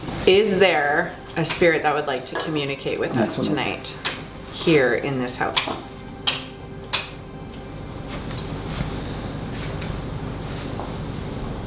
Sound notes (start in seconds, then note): 6.3 light switch clacking; 8.4 soft eerie music